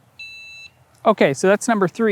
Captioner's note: mode set beep